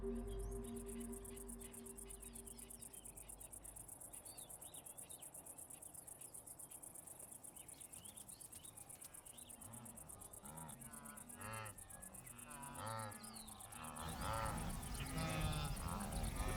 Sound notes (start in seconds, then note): 0.2 insects chirping; 11.3 mooing and grunting